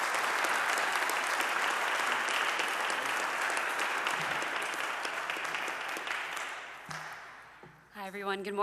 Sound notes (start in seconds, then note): 1.8 audience applauding